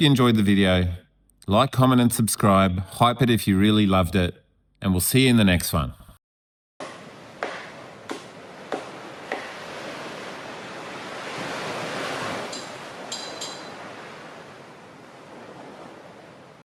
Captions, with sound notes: enjoyed the video. Like, Hype it if you really loved it. hype it if you really loved it, and we'll see you in the next one. [wind] [wind]